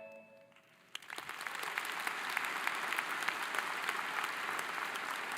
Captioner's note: audience applauding